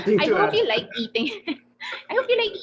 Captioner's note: laughing